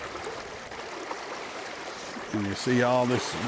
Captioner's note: river rippling